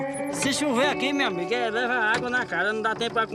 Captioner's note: Portuguese spoken aiudio